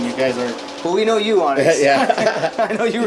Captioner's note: laughter